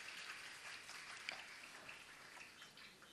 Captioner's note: applause